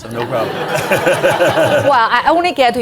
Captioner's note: audience laughing